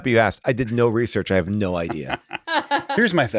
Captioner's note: people laugh